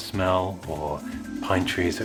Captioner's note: magical Warble Sopund Effect